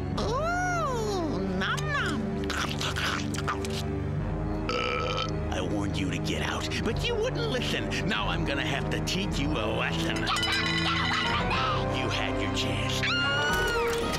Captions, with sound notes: Ooh, num-num! [chewing] I warned you to get out, but you wouldn't listen! Now I'm gonna have to teach you a lesson. Get back, get away from me! - You had your chance. - Ahh!